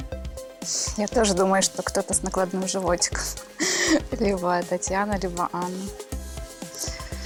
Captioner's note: laughs